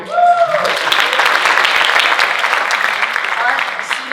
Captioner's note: audience applauding